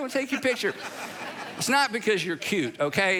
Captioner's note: congregation laughing